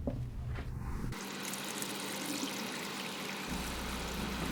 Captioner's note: water running